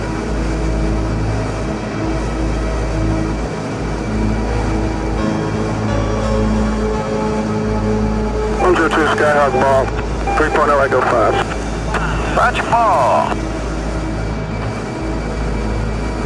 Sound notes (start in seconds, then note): 8.6 male Speaker Over Radio; 12.3 faint speaking over radio